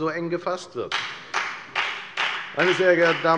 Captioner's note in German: Beifall bei der FDP